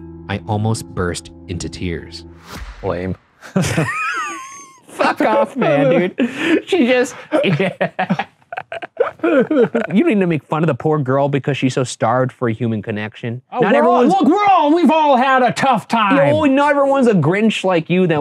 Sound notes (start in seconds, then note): 3.4 both laughing; 7.0 Shane sobbing; 7.1 laughing